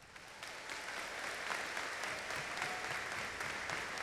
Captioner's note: audience applauding